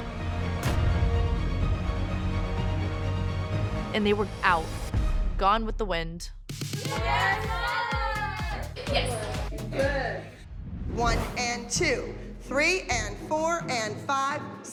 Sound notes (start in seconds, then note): 0.3 dramatic music playing; 6.7 indistinct cheering